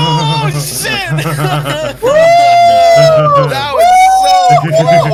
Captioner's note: laughing in relief